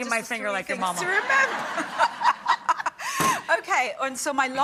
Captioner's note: laughing